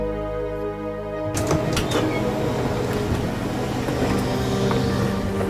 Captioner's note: ambulance doors open